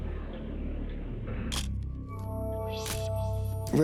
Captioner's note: camera shutter click